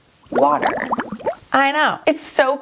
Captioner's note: water dripping